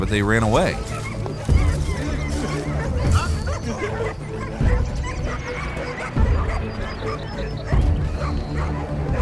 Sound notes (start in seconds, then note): 3.7 dogs barking; 3.7 dramatic music